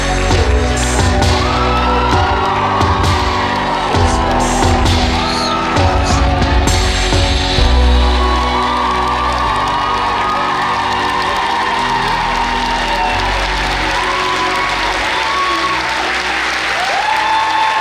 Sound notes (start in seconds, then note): 7.7 audience applauds and cheers